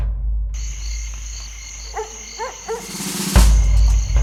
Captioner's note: dog barks